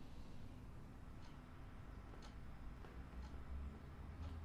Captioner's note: clock ticking